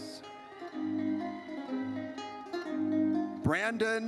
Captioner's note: audience cheers